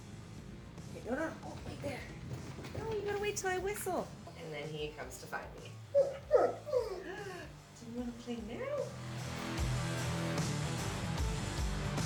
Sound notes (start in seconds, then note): 5.9 dog's whine; 8.9 heavy rock music